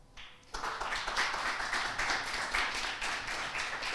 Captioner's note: audience applauds